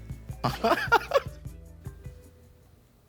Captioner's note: laughs